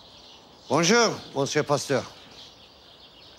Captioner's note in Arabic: تكلم الفرنسية